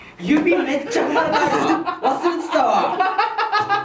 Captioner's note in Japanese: 大爆笑